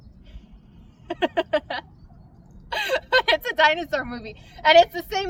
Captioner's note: laughs